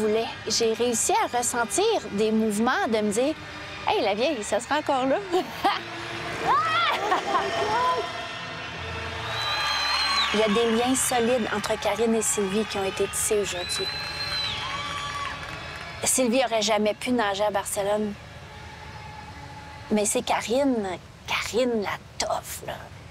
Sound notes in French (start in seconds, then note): 6.4 rire; 7.4 applaudissements et sifflements